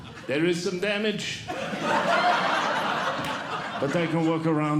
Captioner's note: audience Laughing; audience Laughing